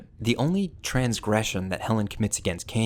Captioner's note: none